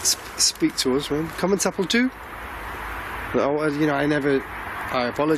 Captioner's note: speaking in foreign language